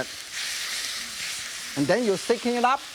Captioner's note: beef sizzling